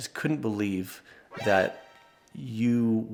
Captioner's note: surprise goofy sound